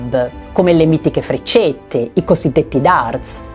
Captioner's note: in Italian